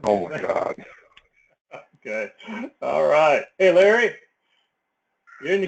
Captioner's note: laugh